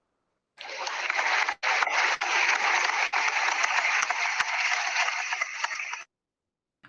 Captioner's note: applause